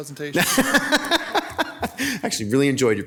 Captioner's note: person laughing